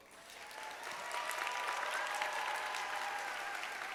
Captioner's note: audience applauds